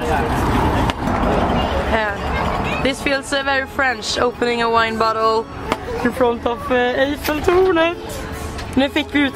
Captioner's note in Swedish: På svengelska